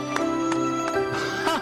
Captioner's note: laughter